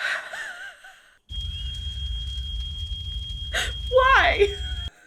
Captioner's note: fire alarm blares